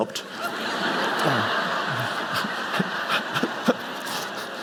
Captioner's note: audience laughing